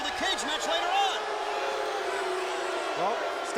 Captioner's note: audience booing